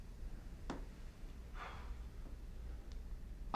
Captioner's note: sighing